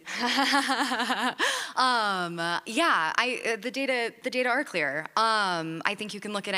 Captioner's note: laughs